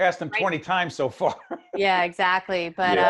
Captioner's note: laughing